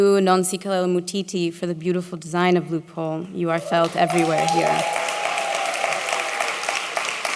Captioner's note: applause